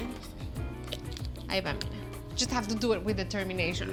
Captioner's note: speaks Spanish